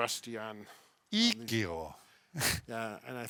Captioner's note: foreign language